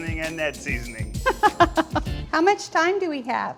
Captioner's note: laughs